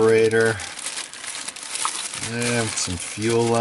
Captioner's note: bag rustling